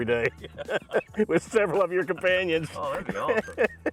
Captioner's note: laughs; laughs; both laugh